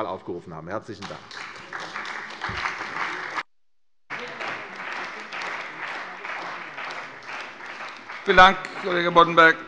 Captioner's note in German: Beifall bei der CDU und dem BÜNDNIS 90/DIE GRÜNEN